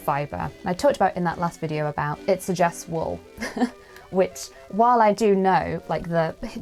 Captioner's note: laughs